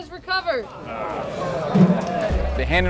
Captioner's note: crowd sighs